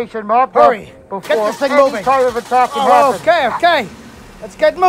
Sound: engine Start Sound

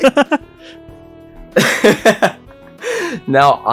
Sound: laugh; laughs

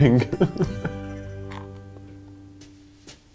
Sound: laughing

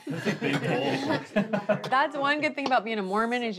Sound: family laughs

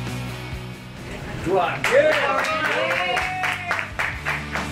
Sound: crowd

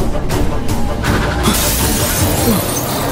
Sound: glass Breaking Sound

